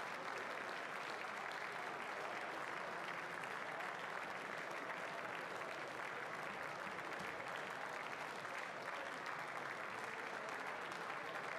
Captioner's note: applause